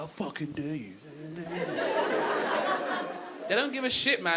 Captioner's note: audience laughing